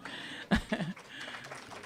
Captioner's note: applause; laughter